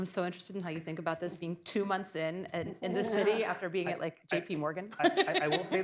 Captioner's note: laughs